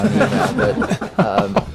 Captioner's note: laughter